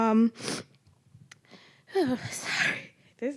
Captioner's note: sniffling